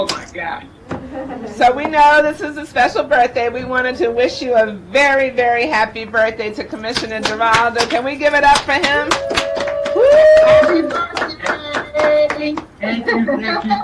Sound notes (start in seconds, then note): 8.5 clapping; 8.8 participants applauding